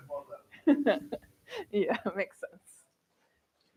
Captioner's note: laughs